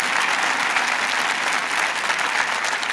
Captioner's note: applause